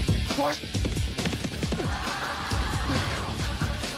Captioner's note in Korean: 후다다닥